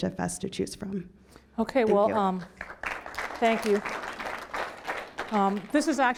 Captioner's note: applause